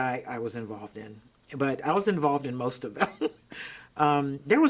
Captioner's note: chuckles